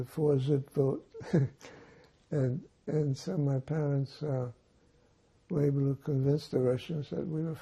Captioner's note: laughing